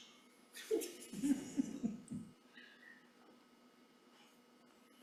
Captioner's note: attendees chuckling